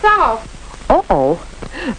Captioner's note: chuckles